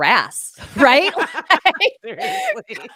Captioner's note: laughing